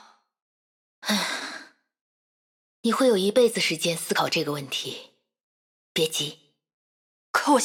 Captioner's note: sigh